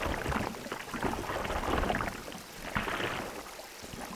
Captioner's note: water splashing